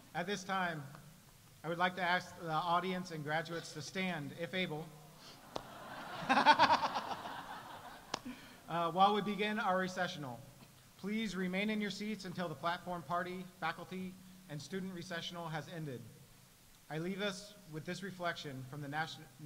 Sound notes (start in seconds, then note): 5.4 audience laughs; 5.7 laughs